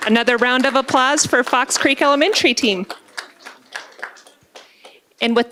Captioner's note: applause